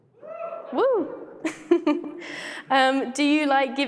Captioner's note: laughs